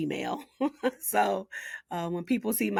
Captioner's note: laughing